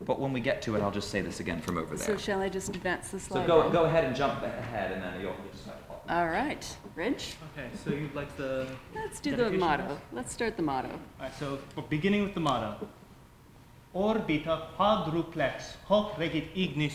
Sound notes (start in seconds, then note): 14.0 speaking latin